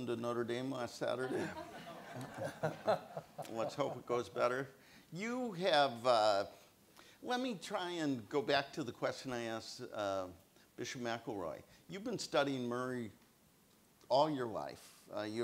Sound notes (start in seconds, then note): 1.2 laughs; 1.3 audience laughs